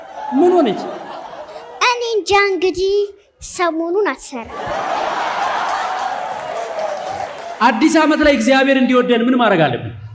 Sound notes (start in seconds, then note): 4.4 laughter